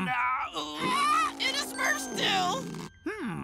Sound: shrieking

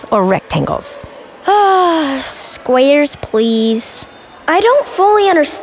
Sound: sigh

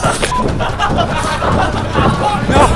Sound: laughter

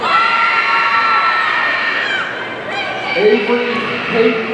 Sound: audience cheering

